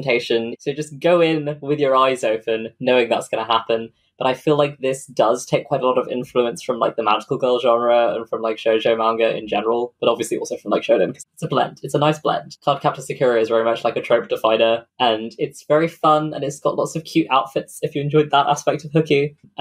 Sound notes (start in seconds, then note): none